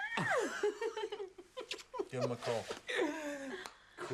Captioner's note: Shauna squeals; Shauna laughs; Loz laughs